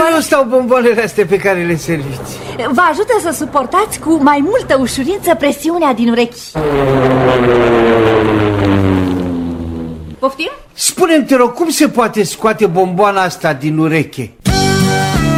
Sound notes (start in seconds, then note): 6.5 noise airplane